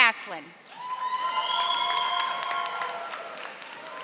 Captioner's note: audience applauding